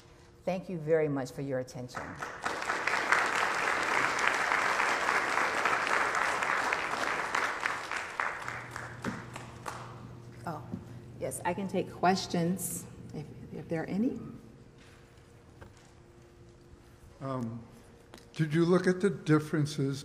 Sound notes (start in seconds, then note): 3.6 applause